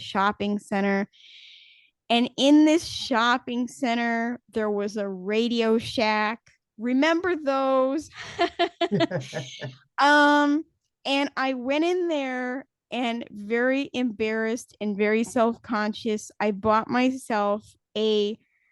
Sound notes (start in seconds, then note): 8.2 laughs